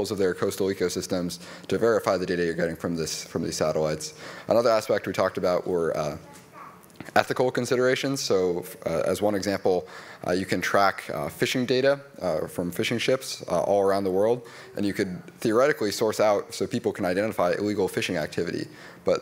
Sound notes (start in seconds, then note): none